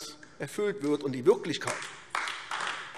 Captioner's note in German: Beifall AfD